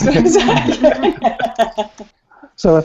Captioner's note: laughter